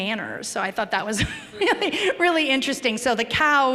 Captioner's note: chuckle